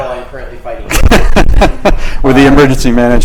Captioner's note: laughs